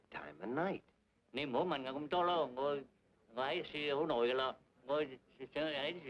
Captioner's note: speaking in foreign language